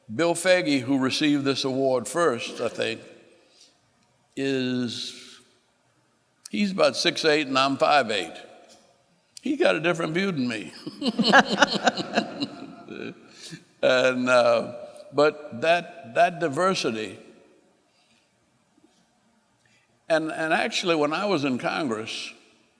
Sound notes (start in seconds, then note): 11.0 laughing